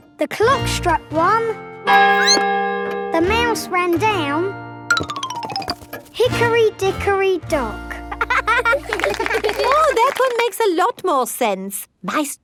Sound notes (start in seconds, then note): 2.1 clock chimes; 2.1 squeaks; 8.2 laughing